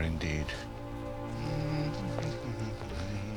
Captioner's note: dumbledore humming